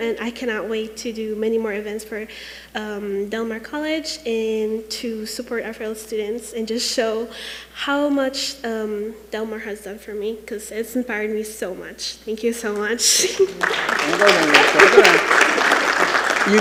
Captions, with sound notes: and I cannot wait to do many more events for Del Mar College and to support our fellow students, and just show how much Del Mar has done for me, 'cause it's inspired me so much. Thank you so much. (giggles) (attendees applauding)